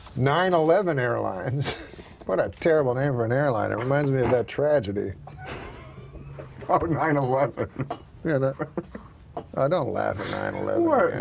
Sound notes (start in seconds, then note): 5.2 laughs